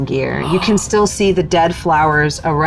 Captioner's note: gasping